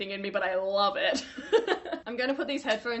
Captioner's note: laughing